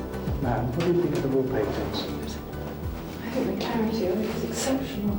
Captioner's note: indistinct chatters